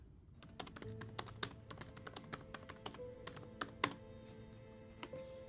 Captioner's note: laptop keyboard clicking